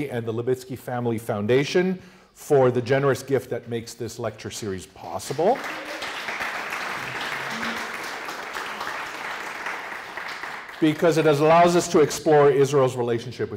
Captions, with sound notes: and the Libitzky Family Foundation for the generous gift that makes this lecture series possible-- [APPLAUSE] --because it allows us to explore Israel's relationship